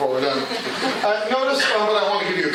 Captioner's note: laughter